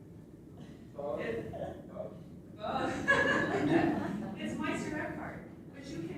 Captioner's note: laughter